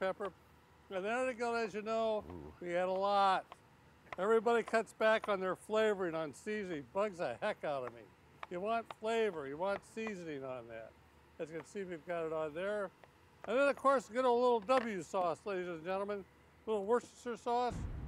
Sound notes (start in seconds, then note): 6.6 knife chopping; 17.7 flames exploding